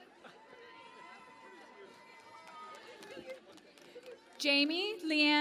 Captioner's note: cheering and Applause